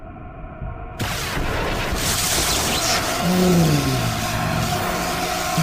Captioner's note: Exoderm crackles